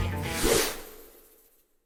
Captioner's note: country music; swooshing